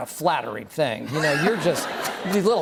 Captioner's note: laughter